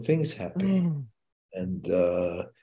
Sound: giggles

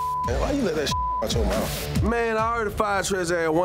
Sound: beep

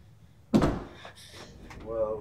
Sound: thuds

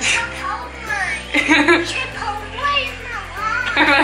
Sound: laughing

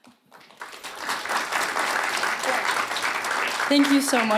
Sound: audience applauding

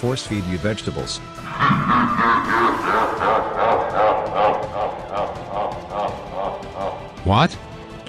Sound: evil laughter

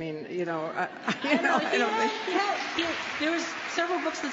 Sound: applause

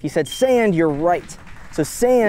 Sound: quiet applause

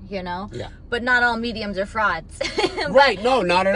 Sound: laughs

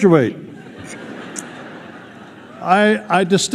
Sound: laughter

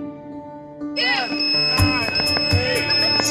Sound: squeal

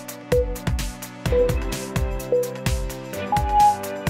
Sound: timer beeping

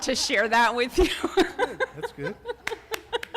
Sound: laughter

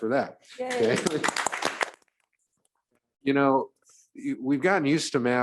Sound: audience applauding

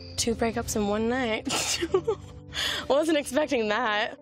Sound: laughs

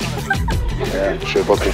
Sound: woman laughing

